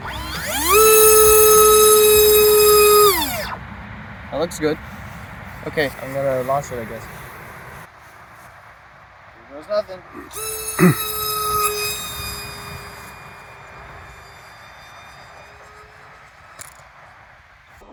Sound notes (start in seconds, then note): 0.0 motor powers up; 1.5 motor whines; 2.5 motor shuts off; 10.3 motor powers on; 11.7 plane zooms away; 16.7 pathetic crunch